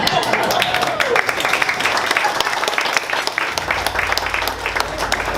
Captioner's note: audience applauding